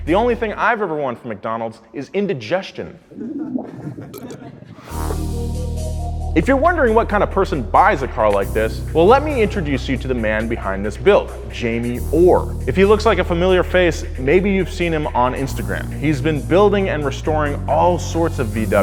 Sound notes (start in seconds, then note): 3.0 stomach gurgling noise; 3.2 crowd laughing; 5.6 upbeat music